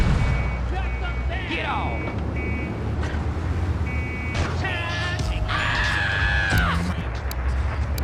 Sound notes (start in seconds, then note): 0.1 car engine roaring